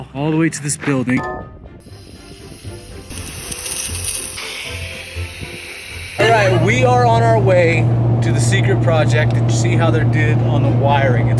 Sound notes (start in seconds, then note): 1.9 water splashing